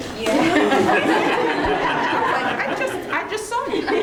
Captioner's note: all laughing